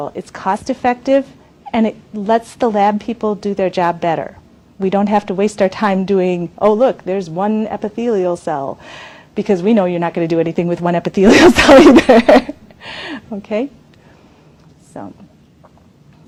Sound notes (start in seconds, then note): 12.8 laughs